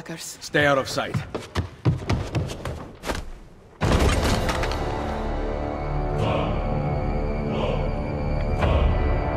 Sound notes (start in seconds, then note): 3.7 battle sounds